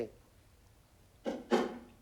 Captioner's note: clunk clunk